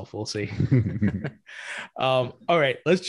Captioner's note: both laughing